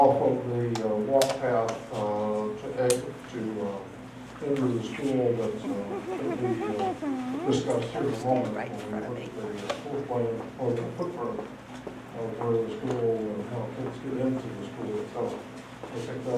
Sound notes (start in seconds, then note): 5.4 audience member chuckles